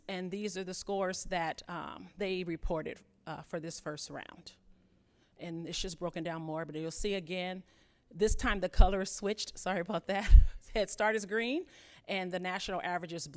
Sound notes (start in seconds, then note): 10.2 chuckles